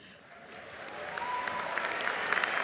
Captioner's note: cheers and applause